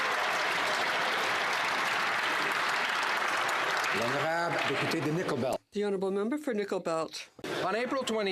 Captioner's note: some Applause